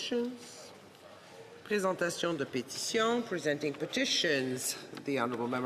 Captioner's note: speaking French